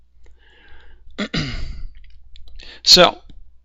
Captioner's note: clears throat